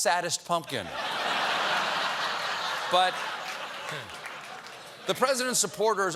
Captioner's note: laughter